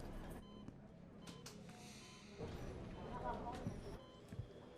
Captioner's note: machine beeping